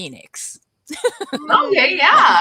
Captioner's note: laughs